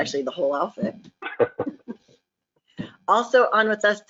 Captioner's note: group chuckling